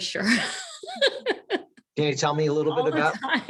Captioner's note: laughs